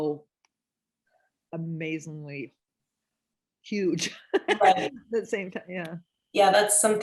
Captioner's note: laughs